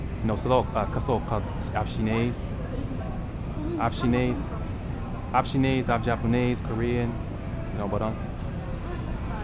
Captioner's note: somali